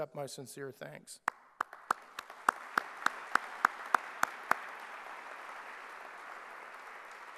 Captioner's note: clapping